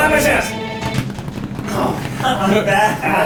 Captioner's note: lightly claps